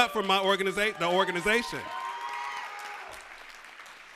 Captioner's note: cheers and applause